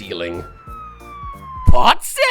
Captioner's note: police Siren